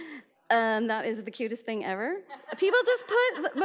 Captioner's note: audience laughs